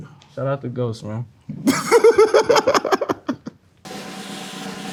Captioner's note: laughing; cymbals crash; drum rolls